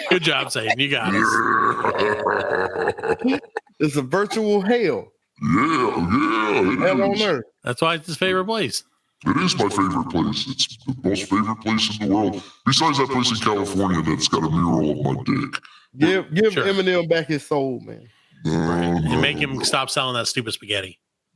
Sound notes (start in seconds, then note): 0.0 laughing; 2.3 laughing